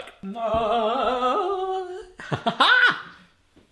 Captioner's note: vocalising; laughing